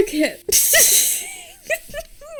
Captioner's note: laughs